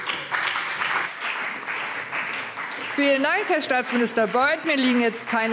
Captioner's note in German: Beifall CDU und BÜNDNIS 90/DIE GRÜNEN